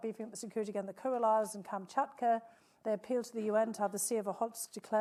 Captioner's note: speaking foreign language